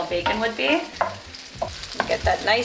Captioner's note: bacon sizzling